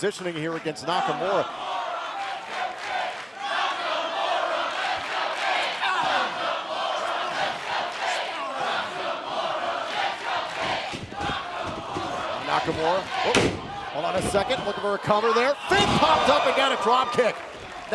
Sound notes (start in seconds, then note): 3.8 fans chanting